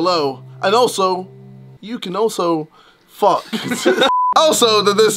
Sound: laughs

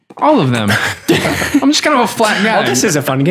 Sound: laughter

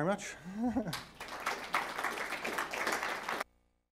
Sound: audience applauding

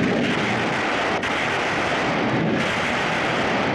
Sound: gun Firing

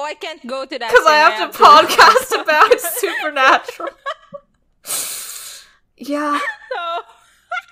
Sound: both laughing

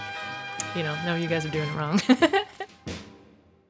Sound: laughs

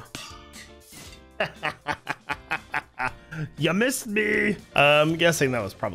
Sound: victorious laugher

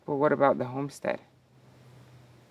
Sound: none

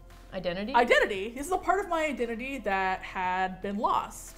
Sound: none

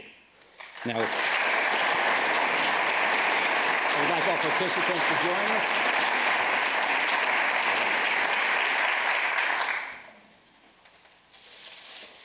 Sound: applause

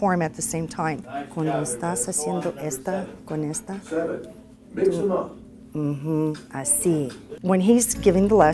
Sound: instructing the student in Spanish

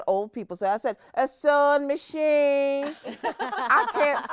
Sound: all laughing

